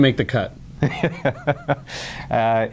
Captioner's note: laughs